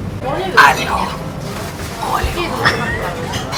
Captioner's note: rough voice